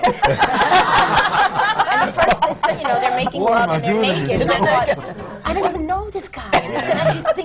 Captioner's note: laughter